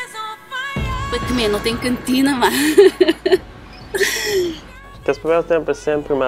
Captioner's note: laughs